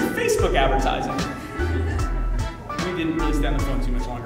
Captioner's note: crowd laughter